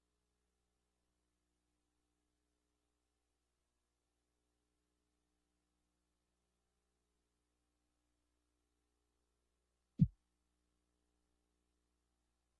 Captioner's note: silence